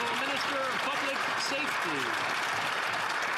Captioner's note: some Applause